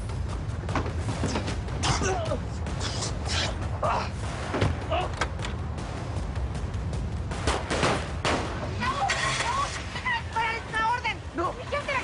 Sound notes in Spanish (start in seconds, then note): 1.9 Quejido; 7.3 Disparos